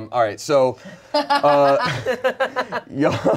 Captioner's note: laughs